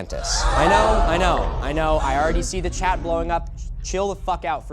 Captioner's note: crowd gasping